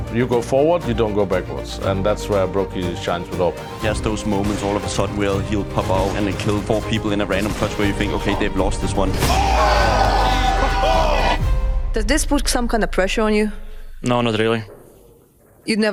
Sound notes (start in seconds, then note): 9.0 commentators clamoring